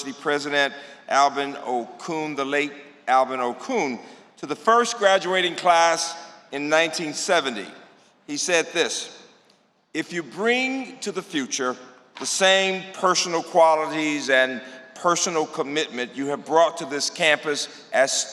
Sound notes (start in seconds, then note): none